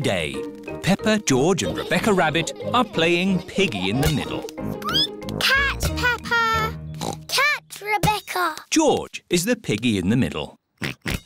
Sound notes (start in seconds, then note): 4.4 squeaks; 7.0 oinks